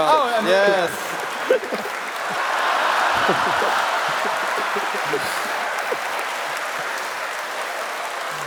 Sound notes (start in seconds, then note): 3.1 applause